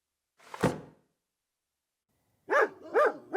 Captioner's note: door slams; dog barking